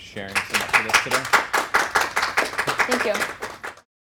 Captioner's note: applauding drowning out speaking